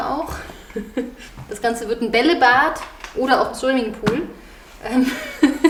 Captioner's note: laughs